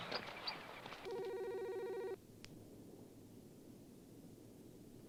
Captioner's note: phone ringing